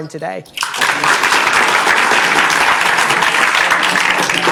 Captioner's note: audience applauding